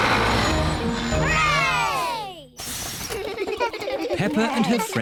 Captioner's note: all cheer